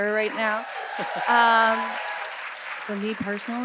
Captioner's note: audience cheering and applauding